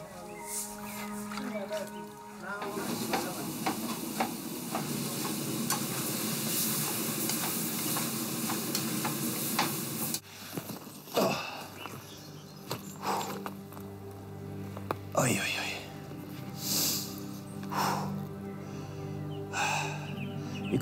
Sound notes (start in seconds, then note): 8.7 cooking noises; 17.6 moaning